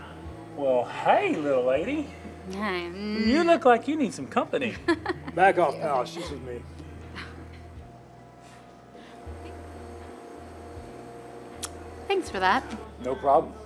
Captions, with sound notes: -Well, hey, little lady. -Hi. Nu-- You look like you need some company. -[laughs] -Back off pal, she's with me. -Thanks for that. -No problem.